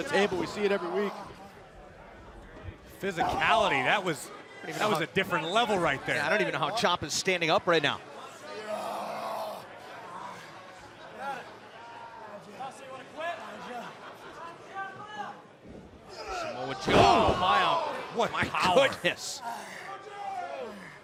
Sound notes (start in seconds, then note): 10.3 crowd chatter